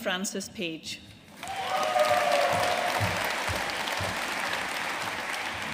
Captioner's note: audience cheering and applauding